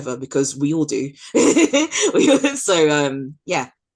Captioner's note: laughs